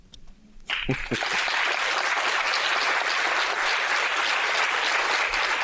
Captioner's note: audience applauding